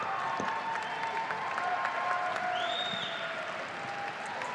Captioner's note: audience applauding